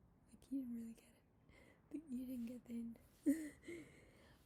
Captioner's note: laughs